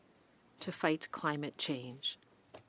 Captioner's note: speaking French